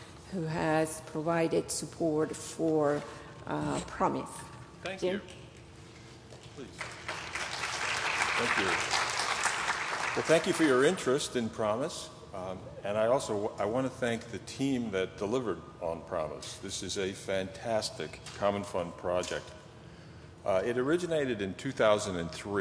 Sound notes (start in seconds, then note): 10.2 applause